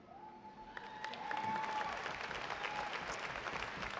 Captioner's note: audience applauding